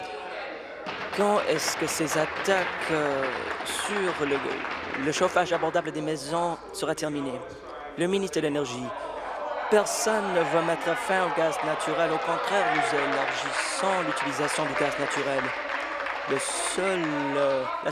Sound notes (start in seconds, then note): 5.2 applause